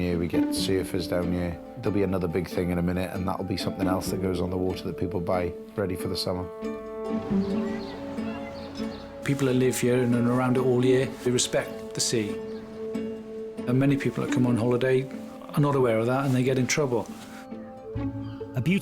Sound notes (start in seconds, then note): 7.2 children chattering; 7.4 bright music continues